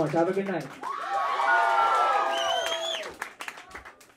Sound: crowd cheering

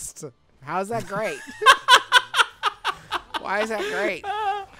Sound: laughs

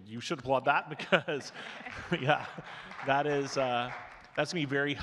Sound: chuckles; audience clapping

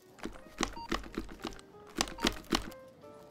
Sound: shaking noises

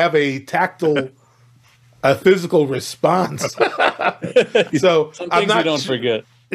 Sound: laughs

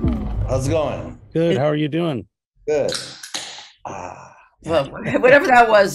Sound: sound of can opening

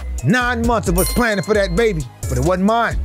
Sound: notification bell chimes

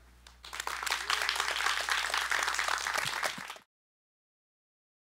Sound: clap

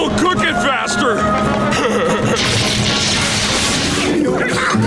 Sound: laughing; electricity popping

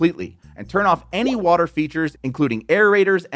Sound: graphics popping

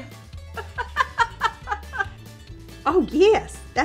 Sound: laughs

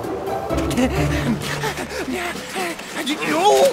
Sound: panting

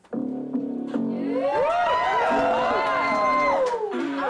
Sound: applause

